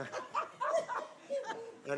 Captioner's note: laughing